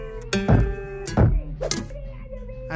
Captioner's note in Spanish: ¡toc toc!